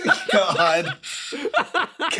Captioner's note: laugh